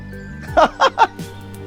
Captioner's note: laughing